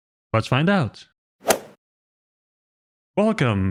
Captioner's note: golf ball hit sound effect